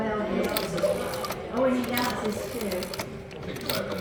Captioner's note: sound of rotary dial turning & returning